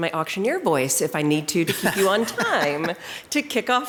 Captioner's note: chuckles